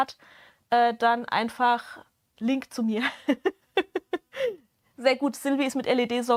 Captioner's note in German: Gelächter